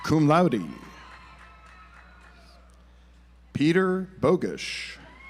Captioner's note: audience applauds